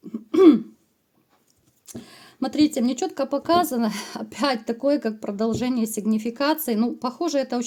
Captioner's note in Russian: откашливается